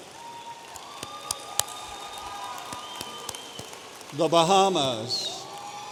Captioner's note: audience applauding